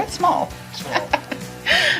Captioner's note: both chuckling